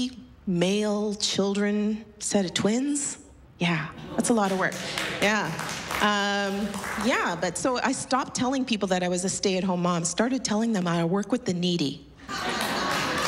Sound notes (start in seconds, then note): 4.5 applause